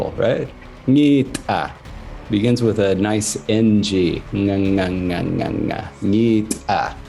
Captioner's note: speaks in Sangheili